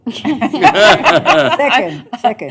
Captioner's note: laughter